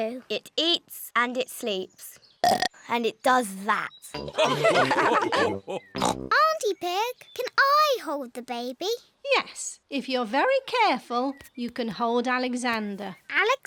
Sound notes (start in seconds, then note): 2.4 burps; 4.2 all laugh